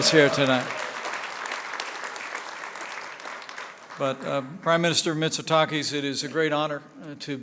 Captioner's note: applause